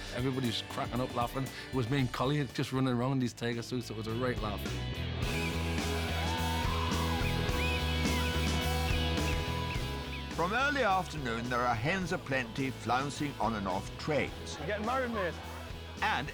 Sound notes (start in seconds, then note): 5.3 upbeat rock music; 5.8 whistle blows